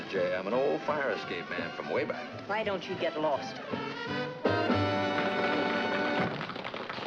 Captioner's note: applause